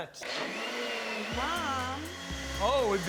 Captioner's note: blender running